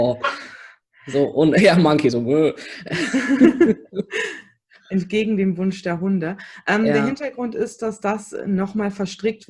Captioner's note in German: lacht